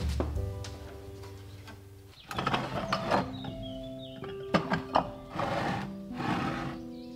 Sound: jars shuffling

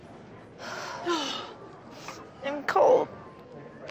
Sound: girls sigh

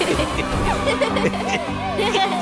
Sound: children cheering

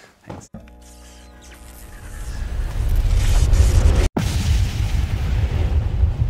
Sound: sounds of electricity followed by loud boom

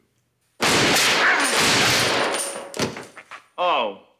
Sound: Leslie grunts; gun firing

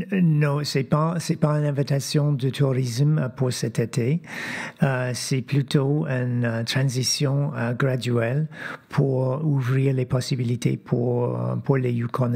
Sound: speaking French

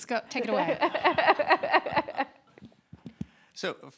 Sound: laughing

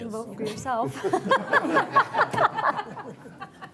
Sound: laughing

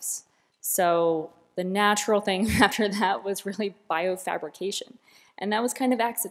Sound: laughter

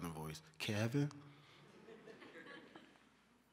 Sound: laughter

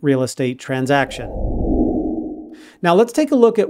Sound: air whooshing

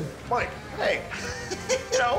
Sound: laughs

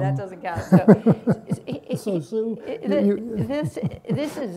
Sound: laughs

